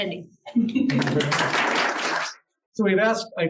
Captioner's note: applause